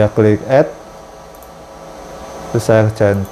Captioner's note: clicking sound